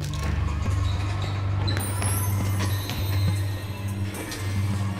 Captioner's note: dramatic, quietly tense electronic music; shoes squeaking on floor